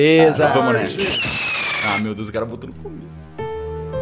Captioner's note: firework